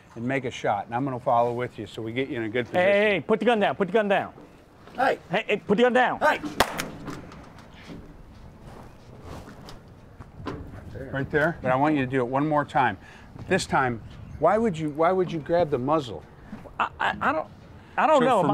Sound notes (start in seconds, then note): 6.6 gun shot